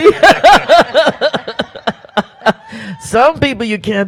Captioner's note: laughs